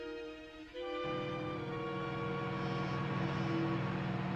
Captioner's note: engines Idling